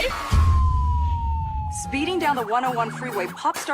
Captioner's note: police siren